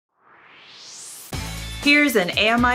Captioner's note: swoosh